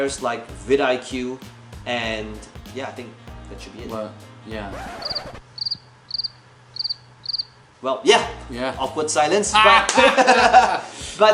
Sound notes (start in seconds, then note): 4.6 record scratching; 6.6 crickets chirping; 9.6 laughing